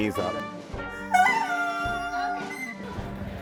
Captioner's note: squeaking continues